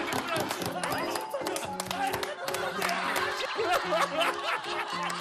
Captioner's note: laughter / Happiness